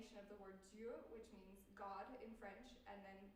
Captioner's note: french